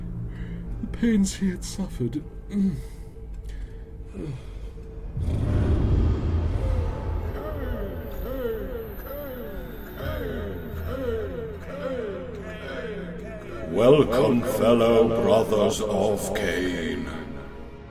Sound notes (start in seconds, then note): 0.1 yawns; 3.9 snores; 6.9 voices echo